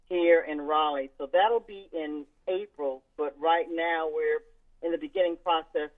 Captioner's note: none